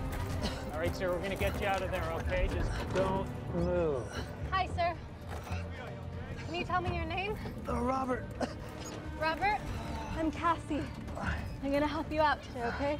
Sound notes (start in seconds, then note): 4.0 man breathing heavily; 7.5 groaning